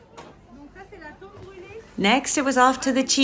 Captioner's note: vendor speaks French